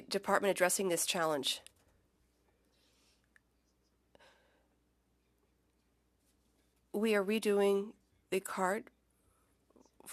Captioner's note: silence